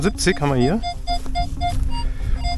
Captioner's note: squeaking